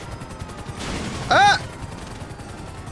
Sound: screams

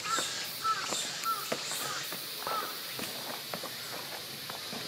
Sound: millions of Japanese cicadas chirp

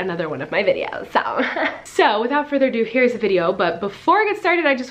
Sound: laughing

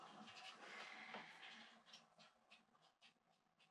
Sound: she sighs

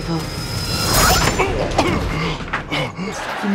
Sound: grunting

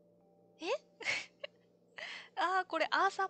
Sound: laughs

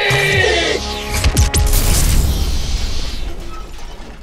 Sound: laser blasts

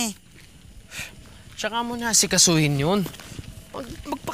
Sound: sighs

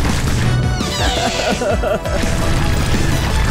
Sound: groaning

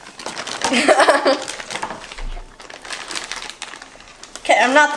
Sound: assistant giggles

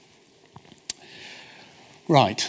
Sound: smacks lips

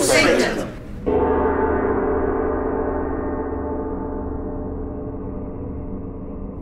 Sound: bell tolls

